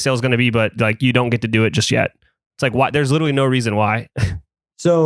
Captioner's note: laughs